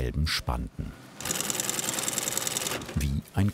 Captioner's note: machine rattling